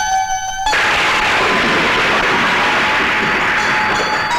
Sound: thunder crashing

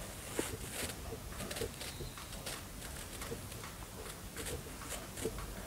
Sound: the dragging sounds and the tapping sounds

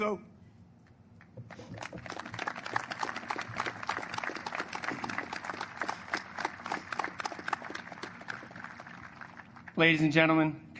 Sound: applause

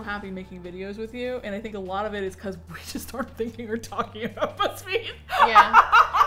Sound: laughs

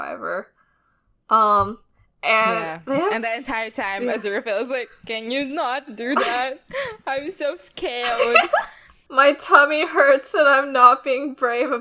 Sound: laughs

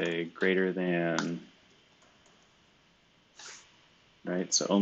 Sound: computer keyboard clicking

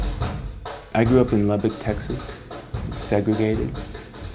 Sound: voiceover

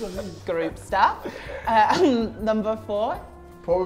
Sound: chuckles

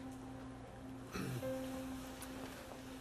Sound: clearing of throat

